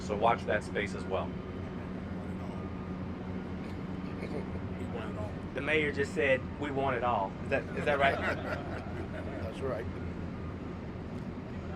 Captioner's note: laughter